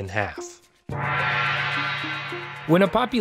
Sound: gong rings

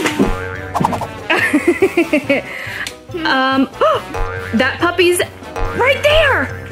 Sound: laughing

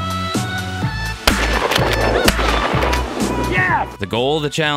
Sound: gun shooting

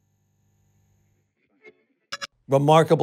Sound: digital blip

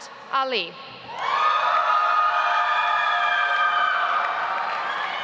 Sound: audience applauds

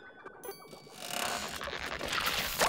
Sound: creaking

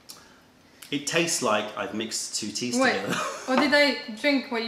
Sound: laughter

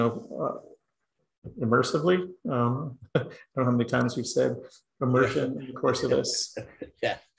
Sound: laugh

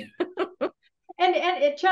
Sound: chuckles

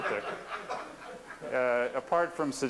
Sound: laughter

